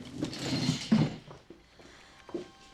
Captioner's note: exhales